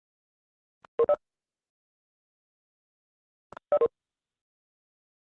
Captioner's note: electronic beeping